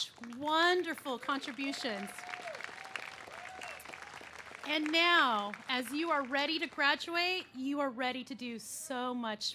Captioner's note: cheers and applause